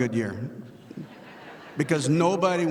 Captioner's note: audience laughing